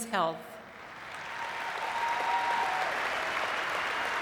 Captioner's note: audience clapping